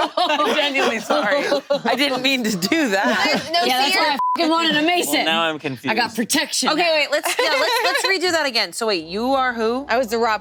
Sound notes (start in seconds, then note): 0.0 group laughing; 4.0 beep